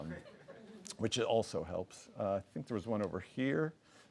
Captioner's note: audience laughs